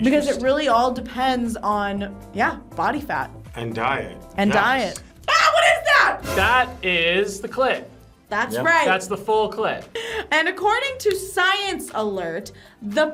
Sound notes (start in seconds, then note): 5.3 screams; 6.2 tense musical sting